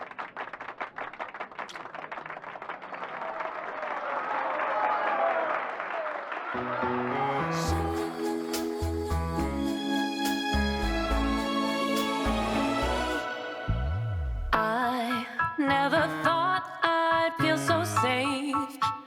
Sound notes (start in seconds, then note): 0.0 audience clapping continues; 3.2 audience clapping and cheering; 6.5 bright music